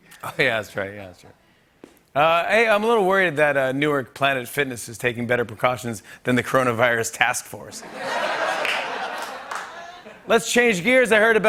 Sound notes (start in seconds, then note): 7.8 laughter